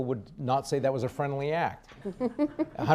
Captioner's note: laughs